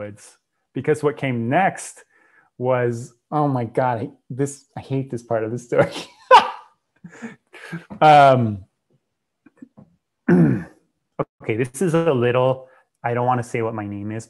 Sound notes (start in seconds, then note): 5.8 laughs; 10.2 clears throat